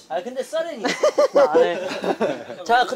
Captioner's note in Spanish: Jajaja